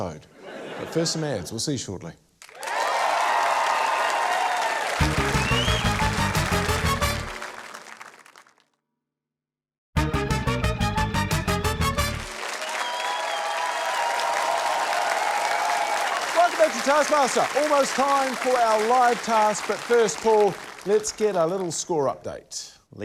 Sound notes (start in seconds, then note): 0.3 laughter; 2.4 cheering, applause; 10.0 quirky music; 13.7 cheering, applause